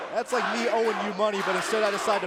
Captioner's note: crowd cheering